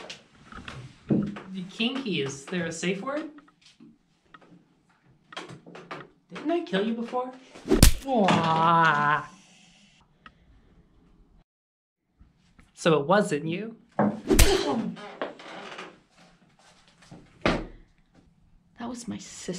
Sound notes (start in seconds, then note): 7.6 punch; 12.6 punch